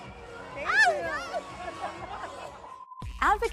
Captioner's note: laughs